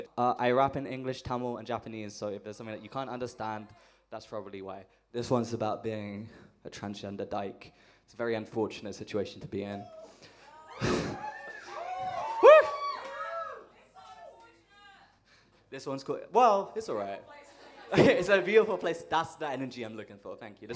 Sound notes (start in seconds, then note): 10.6 she chuckles, audience cheers